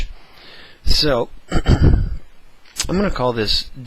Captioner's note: cough